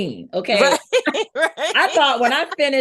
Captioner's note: laughing